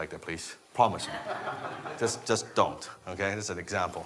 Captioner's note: laughing